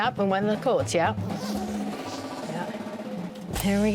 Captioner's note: zipper unzipping